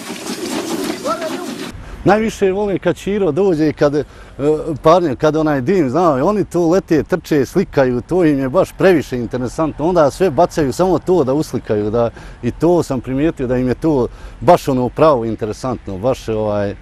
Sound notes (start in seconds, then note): 4.7 steam train